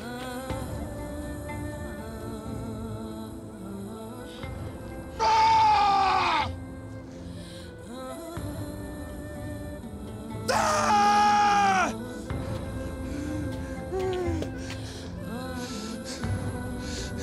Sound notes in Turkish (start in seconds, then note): 0.1 Duygusal müzik; 5.1 Bamsı bağırıyor; 10.3 Bamsı bağırıyor; 14.2 Duygusal müzik